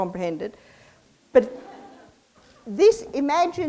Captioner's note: audience laughs